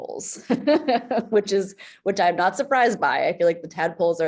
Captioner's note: laughs